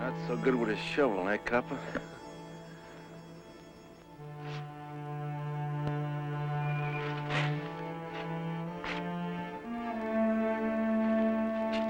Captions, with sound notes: - Not so good with a shovel, eh, copper. (soil crunching)